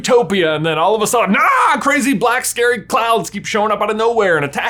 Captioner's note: yells